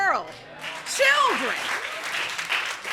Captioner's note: audience applauding